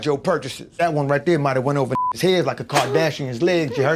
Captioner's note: beep